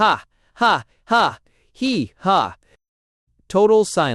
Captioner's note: total silence